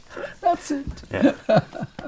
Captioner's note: laughs